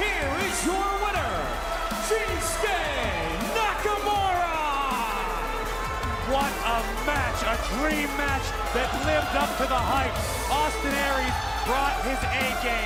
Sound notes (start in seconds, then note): 0.0 crowd cheering; 4.4 crowd cheering